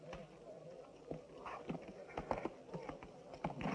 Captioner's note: indistinct chattering